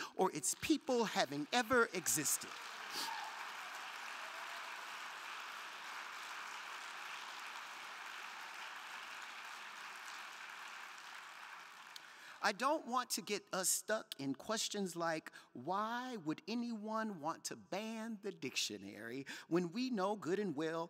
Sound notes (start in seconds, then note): 3.2 crowd cheering; 3.2 crowd clapping